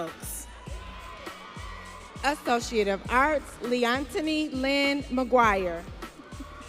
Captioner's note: audience cheering